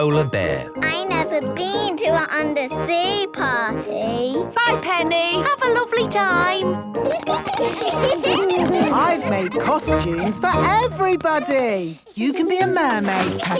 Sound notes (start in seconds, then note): 7.0 laughter